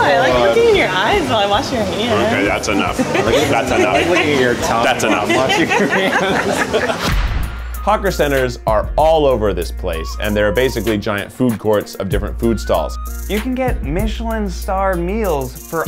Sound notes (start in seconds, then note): 5.4 laughs